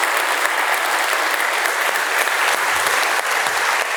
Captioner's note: applause